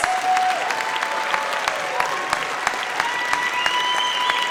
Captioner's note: audience cheers